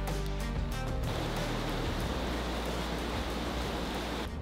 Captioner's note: river gushing